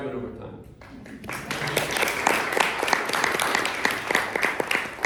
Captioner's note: applause